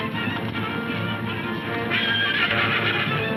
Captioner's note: hooves thundering; horses neighing